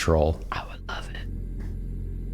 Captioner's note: whispering